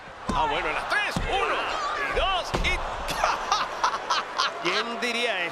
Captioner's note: laugh